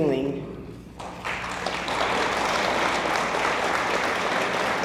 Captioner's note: audience applauds